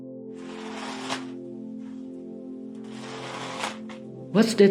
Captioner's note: sound of something being dragged